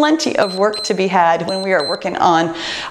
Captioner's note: timer beeps